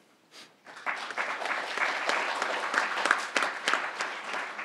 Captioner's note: crowd applauding